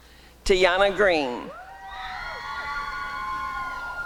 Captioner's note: applause and cheering